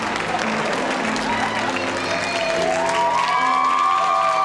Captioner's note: cheering